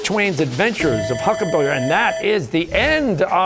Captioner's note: bell ringing